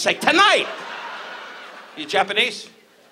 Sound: audience laughs

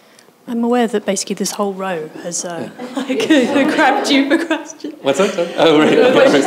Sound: laughs

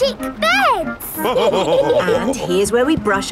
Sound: all laughing

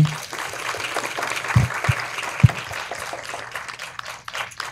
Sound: audience applauding

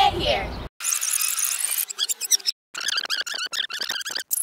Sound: rewind sound

